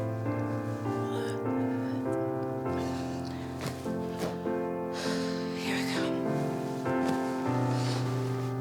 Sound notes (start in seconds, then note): 1.0 Dana yawning; 4.9 Dana sighs